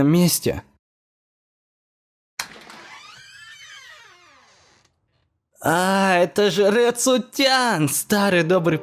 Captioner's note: door